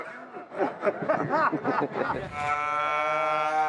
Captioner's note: laughter